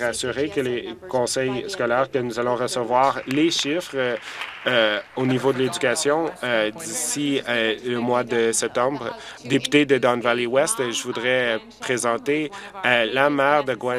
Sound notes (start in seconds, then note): 7.5 applause